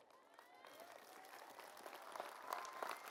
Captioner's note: applause